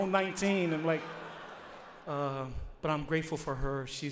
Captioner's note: audience laughs